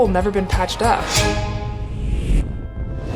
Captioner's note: transition sound effect; soft upbeat music